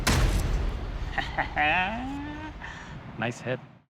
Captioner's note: chuckles